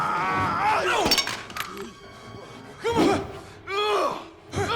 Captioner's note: Knox yelling; Knox grunting